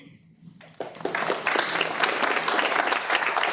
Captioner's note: applause